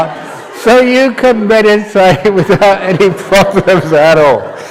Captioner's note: laughter